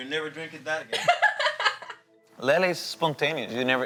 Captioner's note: Lele laughing